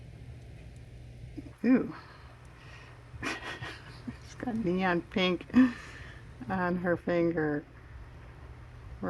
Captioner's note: laughs